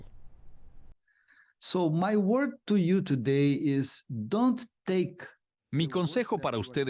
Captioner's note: Hablando idioma extranjero